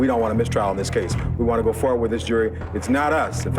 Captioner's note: theme Music; exhales